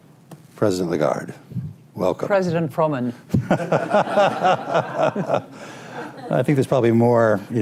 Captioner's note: laughter